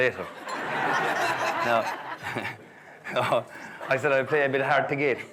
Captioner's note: guests laughing